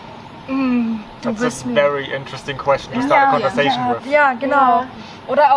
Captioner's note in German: allgemeine Zustimmung